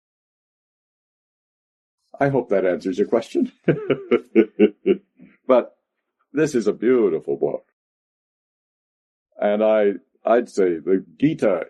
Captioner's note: laughs